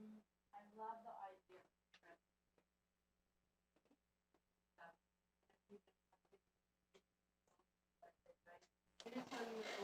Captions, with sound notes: - I love the idea a little bit. (speaking faintly)